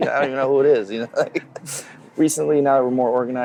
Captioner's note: laughs